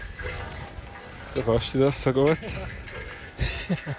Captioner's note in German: Lachend